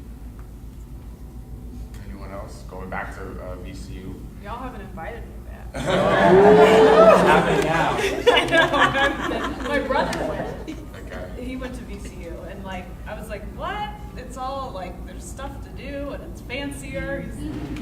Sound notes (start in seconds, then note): 5.7 audience laughing; 8.1 laughing drowns out speaker